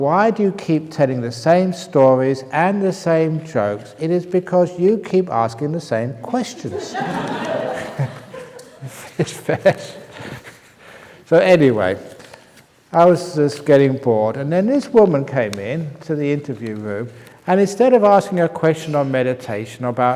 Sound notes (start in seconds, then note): 6.6 laughter